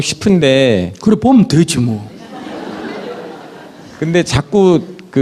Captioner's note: audience Laughter